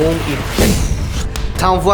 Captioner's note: energy blast